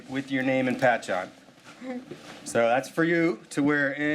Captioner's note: laughing